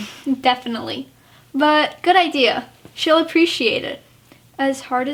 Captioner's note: laughs